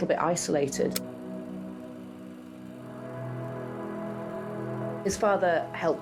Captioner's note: films reels spinning